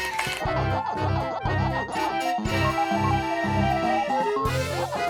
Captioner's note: cartoony blooping